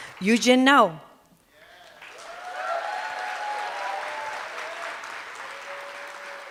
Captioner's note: cheers and applause